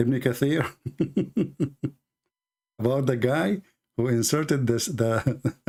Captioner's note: laug hter; Ketawa